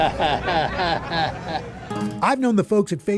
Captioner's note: chuckles